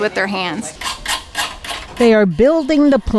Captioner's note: scraping metal